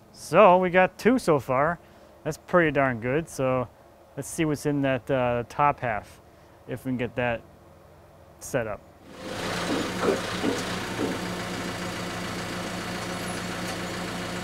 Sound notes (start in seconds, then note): 11.0 engine idling